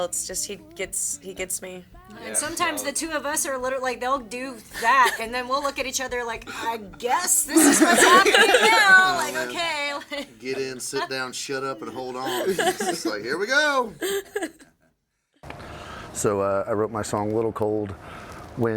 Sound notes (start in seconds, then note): 8.5 all laughing